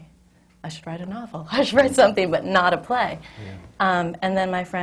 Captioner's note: laughs